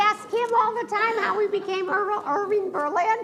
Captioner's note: laughs